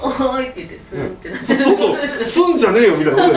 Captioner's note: hmm